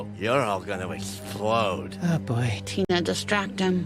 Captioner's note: quietly